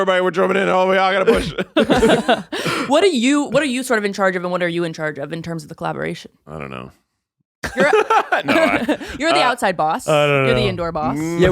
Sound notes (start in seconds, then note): 1.1 all laughing; 7.7 laughs